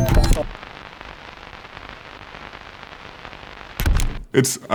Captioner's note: static crackling